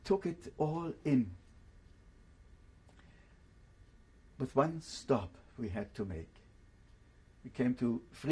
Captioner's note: pauses for 3 seconds